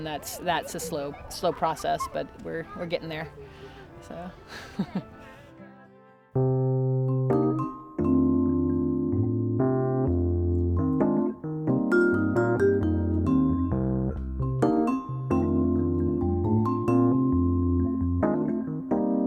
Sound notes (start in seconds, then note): 5.1 chuckles; 6.6 jazzy music playing